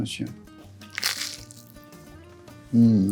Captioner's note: sandwich crunching